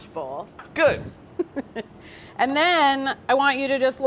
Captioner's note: Carla laughing